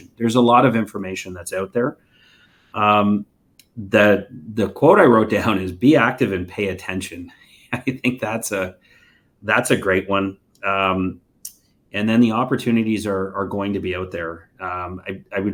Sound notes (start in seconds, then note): 7.7 chuckles